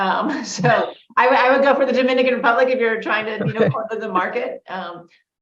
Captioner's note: laughs